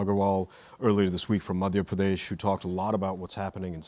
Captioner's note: speaks in Indian language